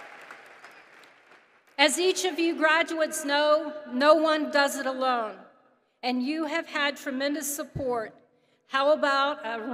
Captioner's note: applause